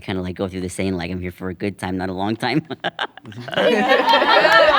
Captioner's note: laughs; everyone laughing